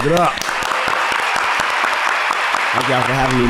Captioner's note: crowd & trio clapping